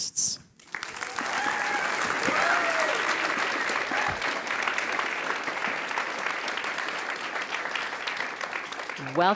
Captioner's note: applause